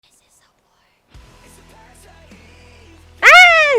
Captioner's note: extreme fangirling